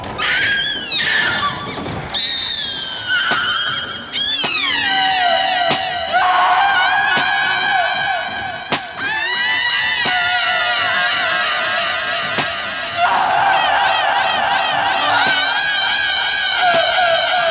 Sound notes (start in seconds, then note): 0.1 screams; 6.1 screaming continues - echoing